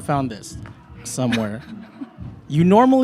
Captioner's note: laughs